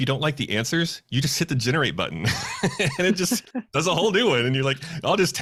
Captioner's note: laughing